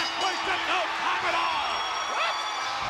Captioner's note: bell ringing; spectators cheering